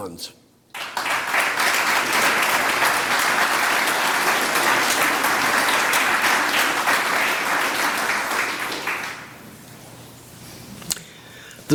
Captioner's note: applause